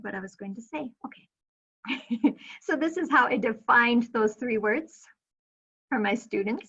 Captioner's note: chuckling